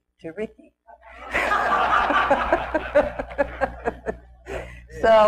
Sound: and audience laughs

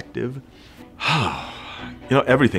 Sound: sighing

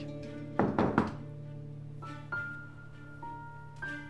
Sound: door shooting sound

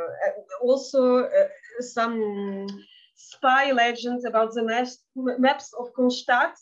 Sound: speaking in Yiddish

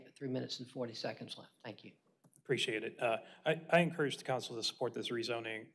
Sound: none

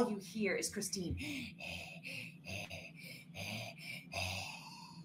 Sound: panting

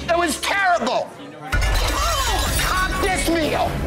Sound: plate shattering

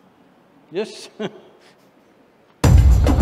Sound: laughs

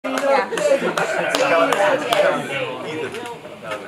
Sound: sounds of ambient crowd

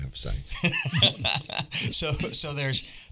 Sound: everybody laughing

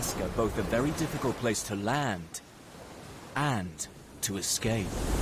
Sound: waves crashing

